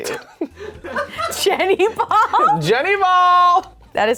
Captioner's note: laughs